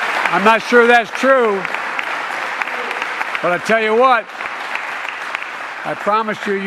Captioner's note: applause